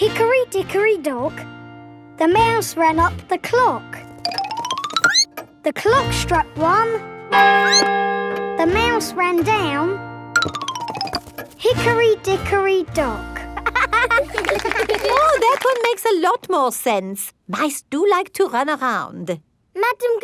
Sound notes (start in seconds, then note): 7.6 squeaks; 7.6 clock chimes; 13.6 laughing